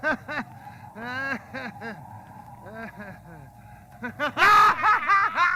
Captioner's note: laughing